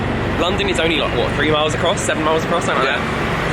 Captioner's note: super loud car